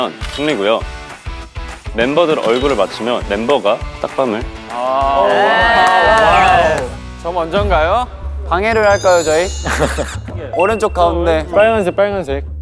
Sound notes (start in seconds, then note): 9.1 sweet voice but not so sweet